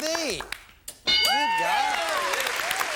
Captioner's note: bell; applause